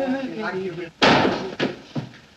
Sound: thud!

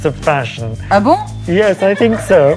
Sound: speaking in French

